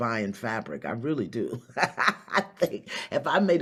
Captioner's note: laughs